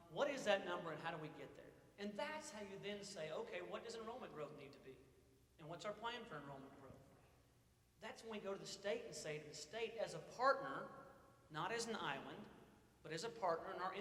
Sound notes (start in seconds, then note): none